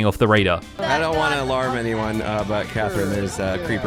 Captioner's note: everyone chattering